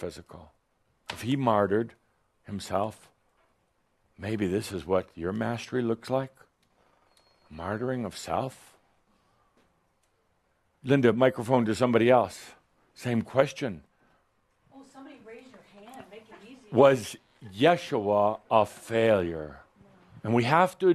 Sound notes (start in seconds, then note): none